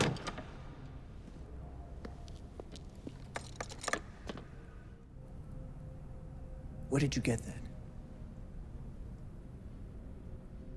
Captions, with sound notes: (box thuds) (locks clicking) Where did you get that?